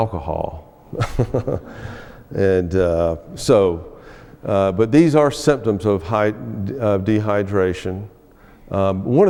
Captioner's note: laughs